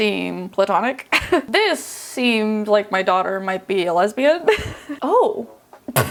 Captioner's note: chuckling; laughing